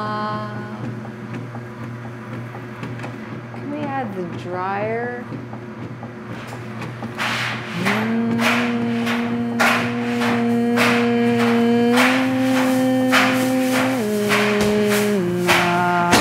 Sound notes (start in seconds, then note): 6.8 dryer pounding; 7.8 singing